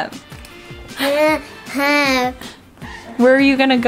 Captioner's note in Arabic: ثرثرة